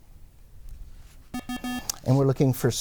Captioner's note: bell